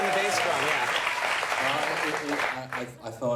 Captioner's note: audience clapping